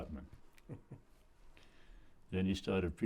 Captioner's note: chuckles